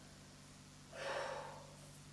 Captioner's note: sighs lightly